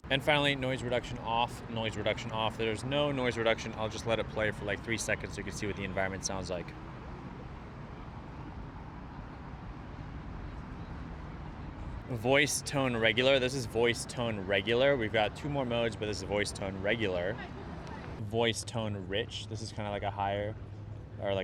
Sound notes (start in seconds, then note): 7.9 cars whir